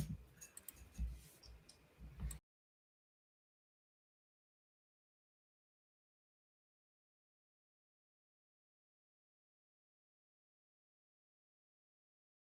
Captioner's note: silence